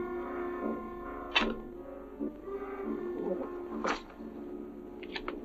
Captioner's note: shovels scraping